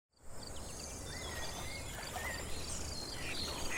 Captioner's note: nature sounds